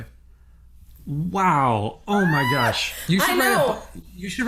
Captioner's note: squeals